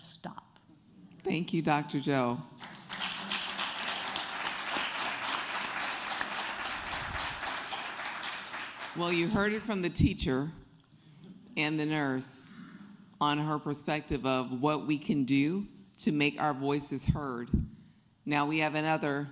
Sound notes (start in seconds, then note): 2.5 applause